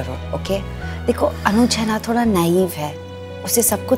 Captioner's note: Gauravi exhales